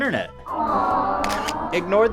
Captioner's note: generic aww sound clip